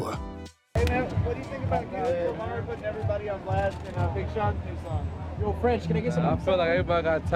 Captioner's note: loud chatter